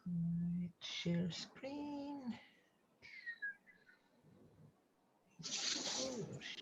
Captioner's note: whistles